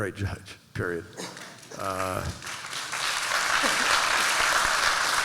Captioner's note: applause